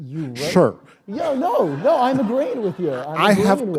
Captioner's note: laughter